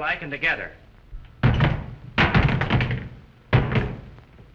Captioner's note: clattering